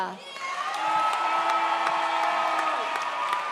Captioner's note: audience cheers